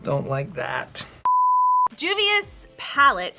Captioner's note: beep